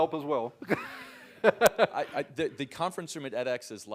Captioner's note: laugh